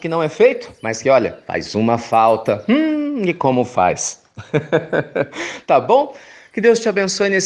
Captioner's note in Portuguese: risos